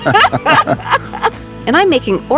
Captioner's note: both laughing